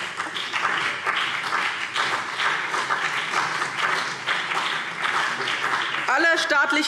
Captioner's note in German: Beifall BÜNDNIS 90/DIE GRÜNEN und vereinzelt CDU